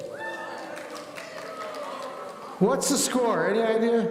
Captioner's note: audience applauding